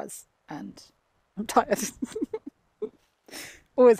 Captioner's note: chuckles